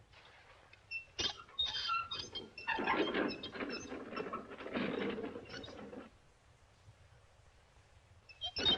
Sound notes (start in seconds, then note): 0.8 wheels squeaking